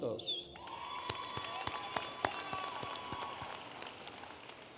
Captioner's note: audience applauding